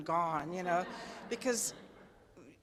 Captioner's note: attendees laugh